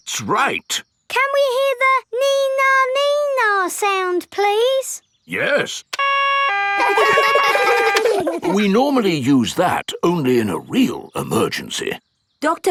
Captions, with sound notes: That's right! Can we hear the "nee-nah, nee-nah" sound, please? -Yes. -(SIREN WAILING) -(KIDS LAUGH) -(SIREN STOPS) We normally use that only in a real emergency.